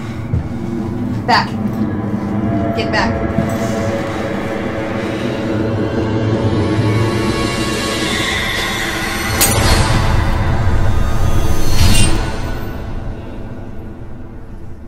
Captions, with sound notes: Back. Get back. (dramatic music) (orb shattering)